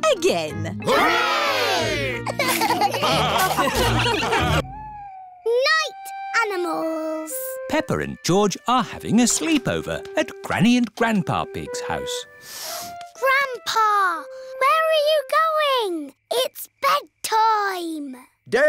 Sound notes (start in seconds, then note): 2.2 laughter